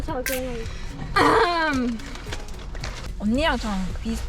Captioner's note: ahem